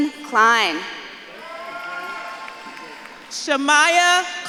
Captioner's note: audience claps and cheers